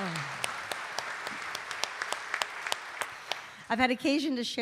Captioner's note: audience applauding